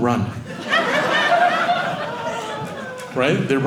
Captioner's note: audience laughing